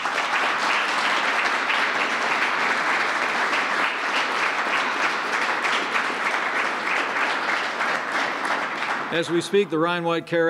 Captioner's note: applause